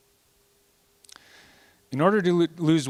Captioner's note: none